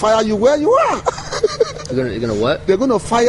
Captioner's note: laughs